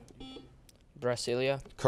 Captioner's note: beeping